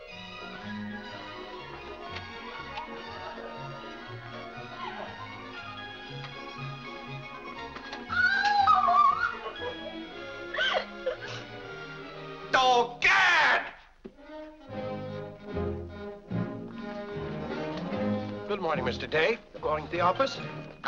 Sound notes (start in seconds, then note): 0.0 upbeat music; 8.1 Mary cries out; 10.4 Mary sobs; 14.3 upbeat music